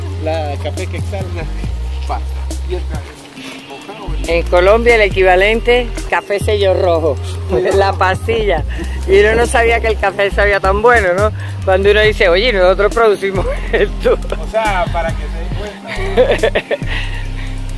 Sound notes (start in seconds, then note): 15.8 laughter